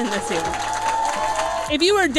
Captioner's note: cheering